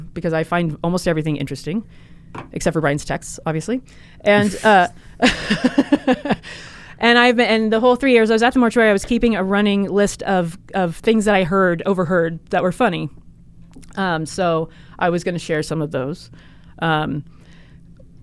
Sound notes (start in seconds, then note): 4.3 laughs